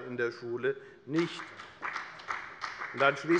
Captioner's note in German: Beifall bei der FDP